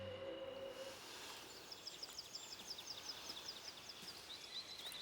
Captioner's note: birds chirping